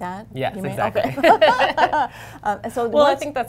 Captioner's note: laughter